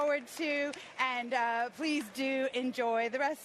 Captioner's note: applause